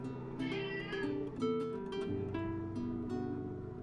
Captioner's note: meeow